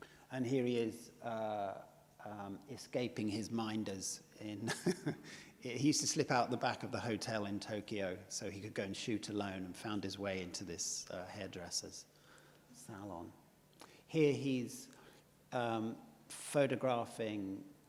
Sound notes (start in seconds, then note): 4.6 laughs